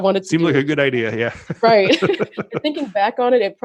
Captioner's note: laughs